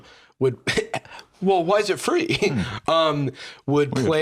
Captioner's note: laughs